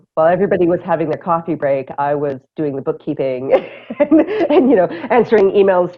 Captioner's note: laughter